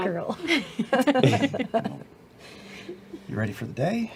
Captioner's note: laugh; laughs